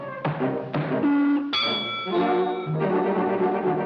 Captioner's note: body thuds; upbeat jazz music